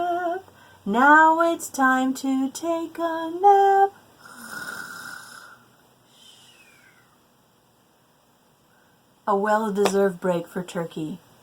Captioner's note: snore